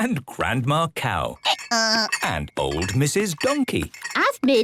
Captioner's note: braying